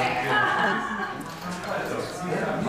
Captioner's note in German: Stimmengewirr, Lachen